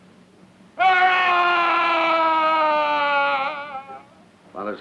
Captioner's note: Andre screams